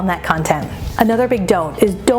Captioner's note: transition whooshes